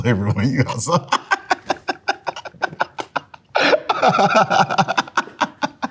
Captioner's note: laughing